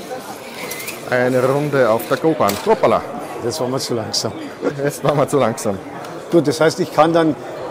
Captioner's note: I laugh